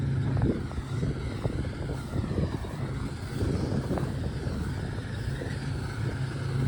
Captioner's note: combine harvester mechanical noise